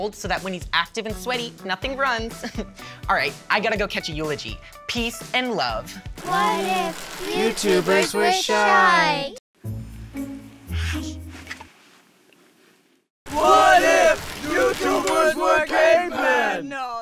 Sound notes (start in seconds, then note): 2.4 chuckles; 5.9 quietly; 10.7 whispers